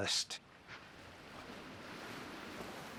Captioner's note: waves splashing